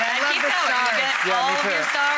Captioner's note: audience clapping